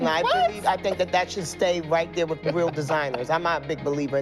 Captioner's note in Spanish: se ríe